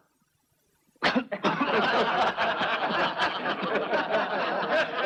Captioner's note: coughs; laughing